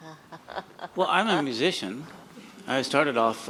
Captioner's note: chuckles